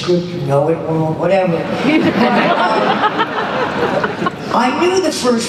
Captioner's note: laughter